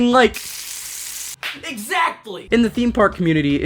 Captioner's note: smack